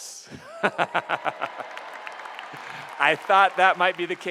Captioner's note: applause